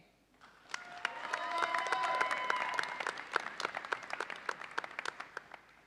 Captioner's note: audience cheers and applauds